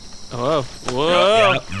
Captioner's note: Pleck nods, loses his balance, and falls over with a small thud